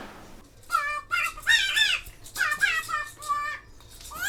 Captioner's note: high pitch comical voice